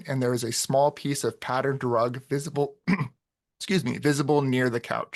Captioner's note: clears throat